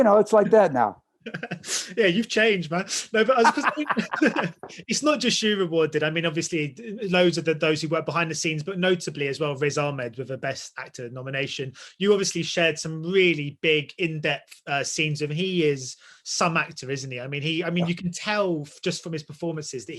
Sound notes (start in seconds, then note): 3.2 laughter